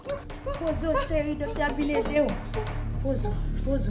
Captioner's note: gasping continues